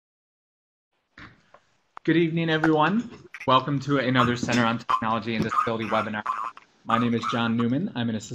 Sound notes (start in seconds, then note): 2.1 voiceover